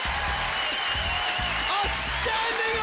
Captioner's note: applause